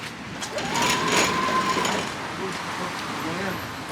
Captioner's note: automatic door opening